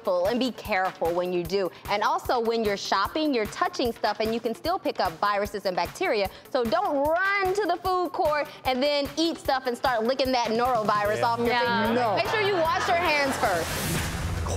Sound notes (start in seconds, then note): 12.0 groaning